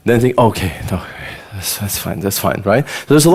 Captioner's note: sighs